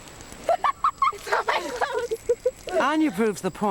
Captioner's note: giggling